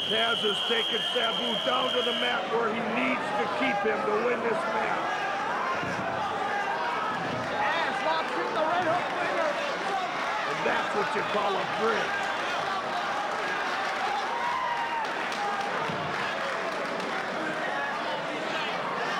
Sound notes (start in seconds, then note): 12.7 spectators cheering and applauding